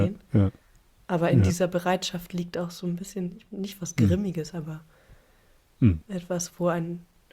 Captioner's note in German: räuspern